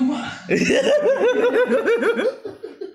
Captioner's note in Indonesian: Giggles